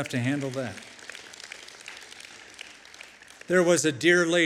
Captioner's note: applause